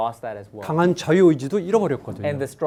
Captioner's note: speaking in Korean